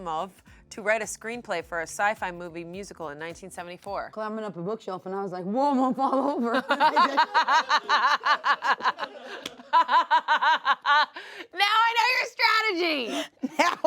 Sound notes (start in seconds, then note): 6.3 everyone laughs